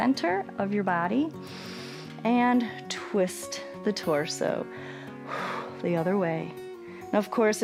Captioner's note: inhales